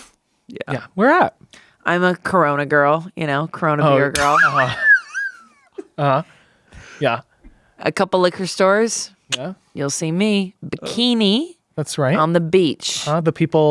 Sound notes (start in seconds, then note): 4.2 laughs